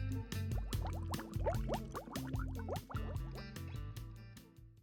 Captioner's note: bubbles blowing